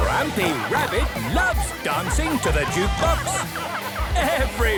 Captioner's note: shouting